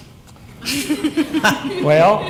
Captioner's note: laughter